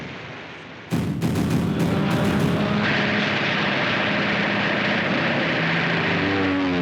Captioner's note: guns popping; dramatic music; planes roaring